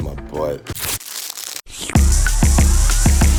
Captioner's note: plastic rips; slurps; upbeat music